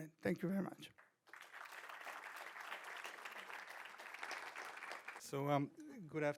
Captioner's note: audience applauding